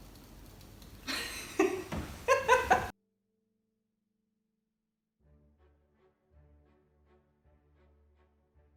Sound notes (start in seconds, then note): 0.6 fan opens; 3.5 woman Laughs